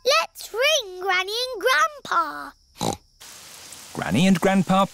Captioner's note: snorts